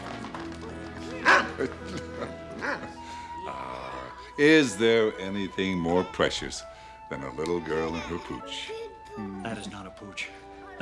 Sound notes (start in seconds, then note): 0.1 chuckling; 1.2 dog barks; 7.8 kids chuckling